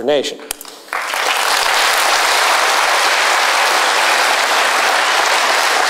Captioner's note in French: Applaudissements